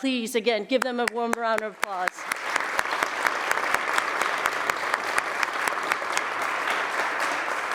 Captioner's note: applause